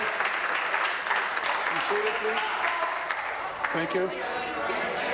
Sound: applause

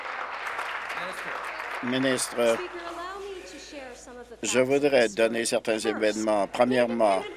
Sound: applause

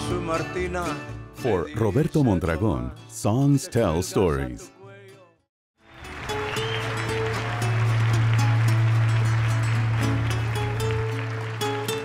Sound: music and applause

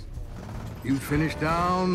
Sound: engine sounds

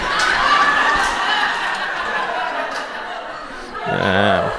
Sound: audience laughs

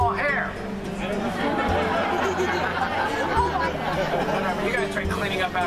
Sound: audience Laughs

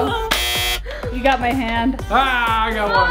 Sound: buzzer buzzes

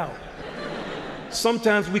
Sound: laughter

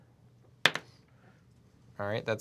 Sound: die clatters

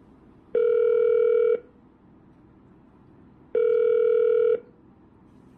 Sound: phone ringing

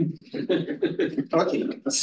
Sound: laughing

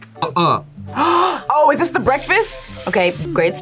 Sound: playful music; gasps

